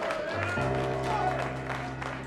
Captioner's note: audience clapping